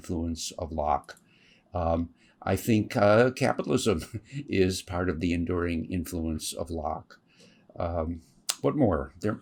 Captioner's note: laughs